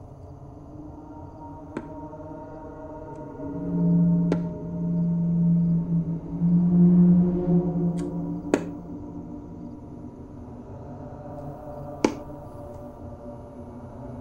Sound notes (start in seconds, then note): 1.6 sound of walking cane